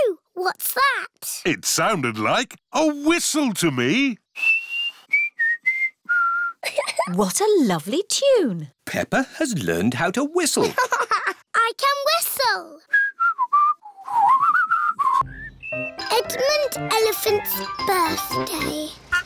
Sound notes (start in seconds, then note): 4.3 whistles a tune; 6.6 giggles; 10.6 laughs; 12.8 whistles